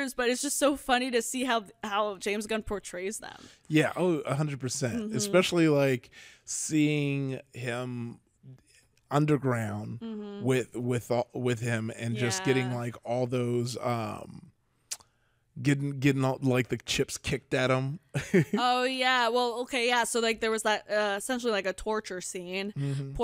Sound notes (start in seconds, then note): 18.1 chuckles